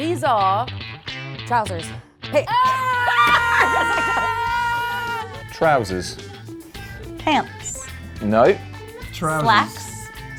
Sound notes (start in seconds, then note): 2.5 laughs